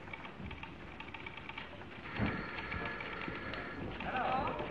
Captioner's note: typewriter clacking; phone ringing